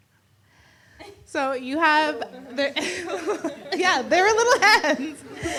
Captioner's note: laughs